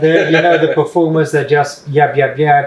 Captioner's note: laughing joyfully